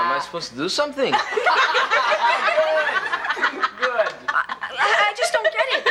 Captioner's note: class laughing